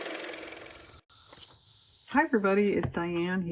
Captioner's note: car motor